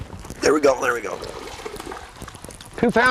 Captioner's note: splash